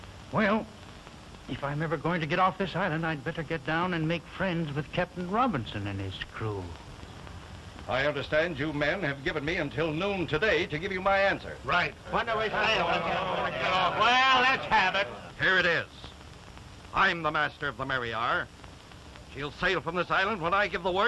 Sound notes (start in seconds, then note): 11.6 indistinct chatter